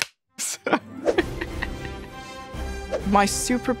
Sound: laughing

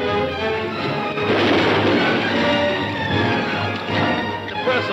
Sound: gun firing

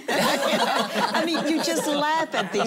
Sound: laughing

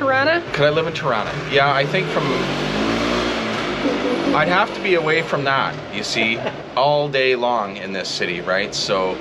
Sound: scooter noise

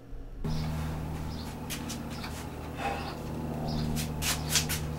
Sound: birds chirping

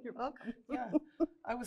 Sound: laughs

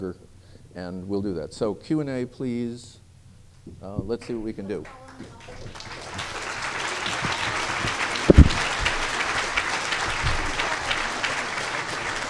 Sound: applause

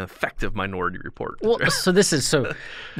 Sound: chuckle

